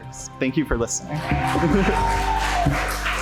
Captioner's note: audience cheers and applauds